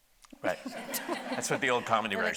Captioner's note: audience laughing